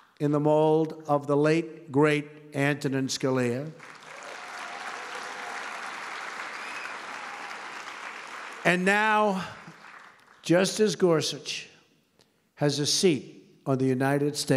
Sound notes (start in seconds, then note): 3.7 applause